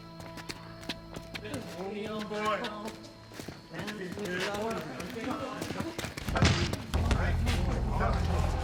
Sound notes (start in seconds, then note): 1.9 chattering